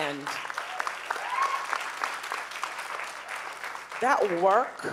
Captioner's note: audience cheering